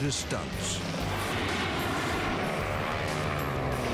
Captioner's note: engines roar